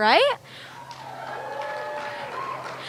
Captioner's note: cheering